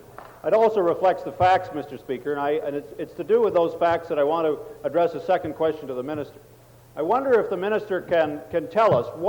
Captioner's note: table Pounding